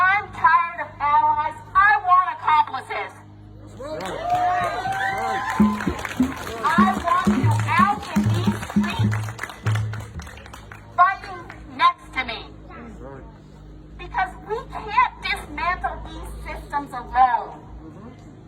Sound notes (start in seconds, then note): 3.8 audience cheering; 3.9 audience applauding; 5.5 audience drumming rhythmically